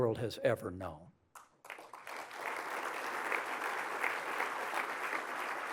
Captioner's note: applause